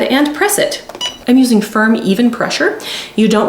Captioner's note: press beeping